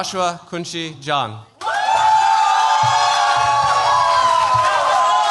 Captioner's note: cheers, applause